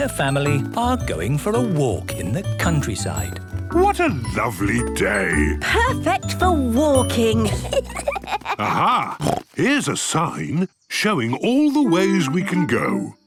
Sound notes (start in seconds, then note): 7.4 children giggling; 8.1 snorts